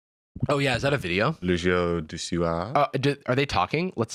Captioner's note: frenchly